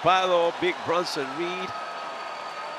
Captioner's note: applause